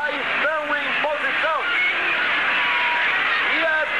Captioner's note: yelling, Shouting